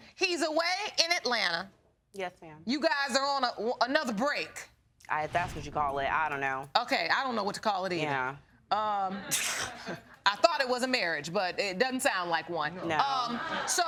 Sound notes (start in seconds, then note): 8.6 scoffs